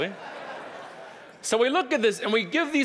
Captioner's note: audience laughing